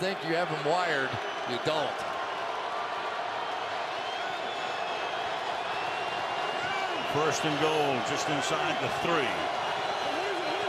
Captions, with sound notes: Just when you think you have him wired, you don't. [crowd cheering] First and goal just inside the 3.